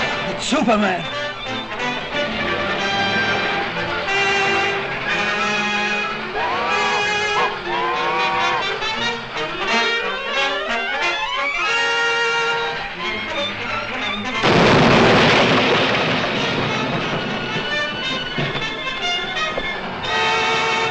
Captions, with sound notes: - It's Superman. (light dramatic music) (train horn blows) (explosion booms)